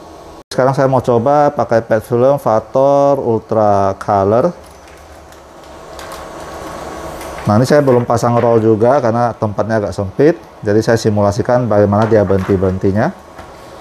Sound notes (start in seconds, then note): 4.4 PET film noise